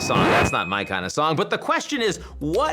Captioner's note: record scratching